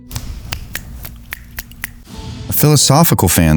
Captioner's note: fingers snapping